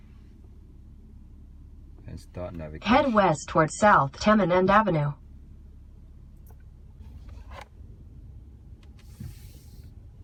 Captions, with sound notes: and start navigating. (Navigation audio from Google Maps)